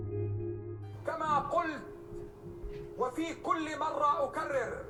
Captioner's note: speaking in a foreign language